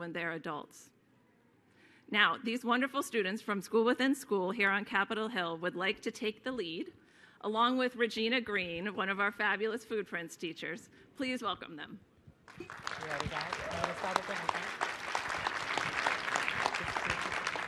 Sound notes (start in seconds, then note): 12.4 applause